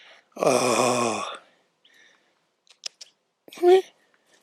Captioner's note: clicking